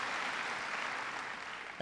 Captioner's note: applause